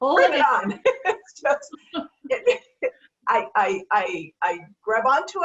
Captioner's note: laughter